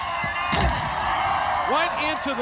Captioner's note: Sting clunks